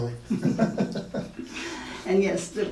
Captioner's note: laughing